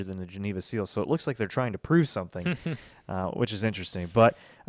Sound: laughs

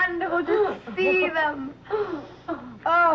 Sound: Miep laughing

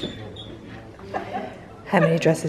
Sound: laughs

